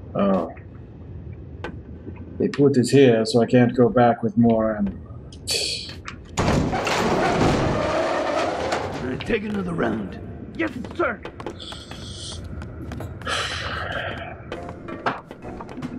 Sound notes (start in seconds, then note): 5.3 scoffs; 13.2 sighs